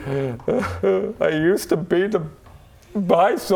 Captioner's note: boo hoo